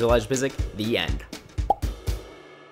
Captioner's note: pop